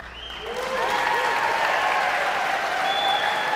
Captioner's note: audience member whistles